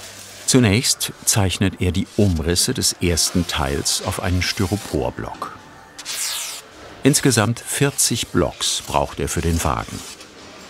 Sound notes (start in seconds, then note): none